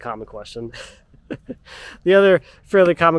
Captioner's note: laughing